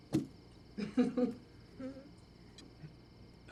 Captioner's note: Carlene chuckling